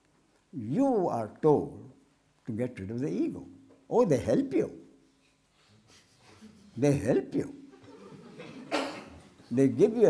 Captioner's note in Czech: smích